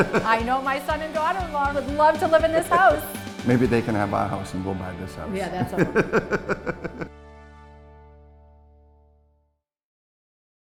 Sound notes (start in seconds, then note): 5.6 laughing